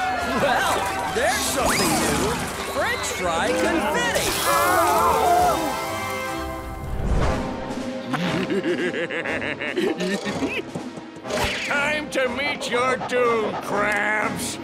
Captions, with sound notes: Well, there's something new, french fry confetti. [groaning] [laughing] Time to meet your doom, Krabs.